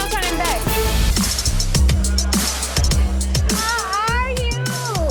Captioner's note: rhythmic music; people chattering